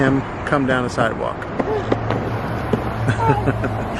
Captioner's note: skateboard wheels clicking; laughs